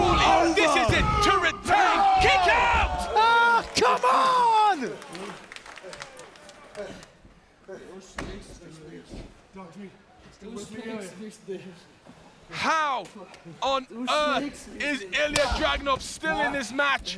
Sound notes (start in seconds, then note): 4.4 applause